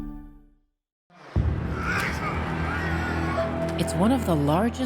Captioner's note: wrestlers grunting